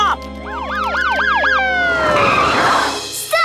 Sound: sirens blaring

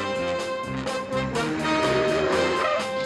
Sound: tires screech

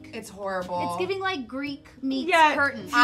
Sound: none

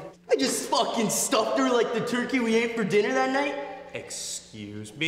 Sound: none

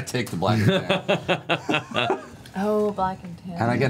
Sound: laughs

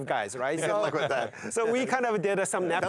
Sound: laughs

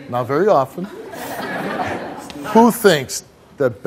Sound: audience laughs

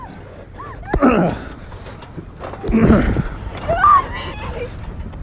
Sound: Alexie shrieks; the Man grunts

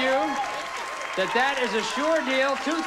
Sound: audience applauding

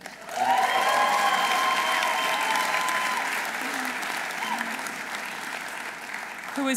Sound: audience applauding; audience cheering

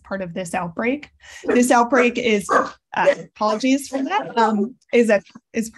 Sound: dog barking

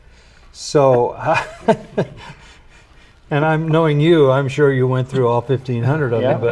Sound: laughs

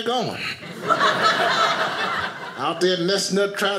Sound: audience laughing

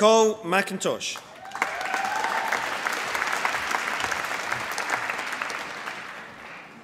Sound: applause

